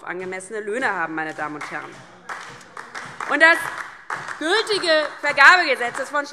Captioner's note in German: Beifall DIE LINKE und SPD